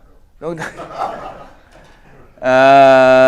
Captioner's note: laugh